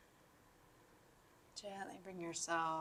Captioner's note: silence